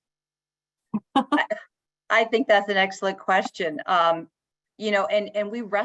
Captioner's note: chuckles